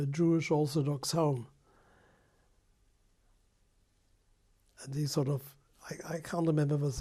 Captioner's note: pauses for 3 seconds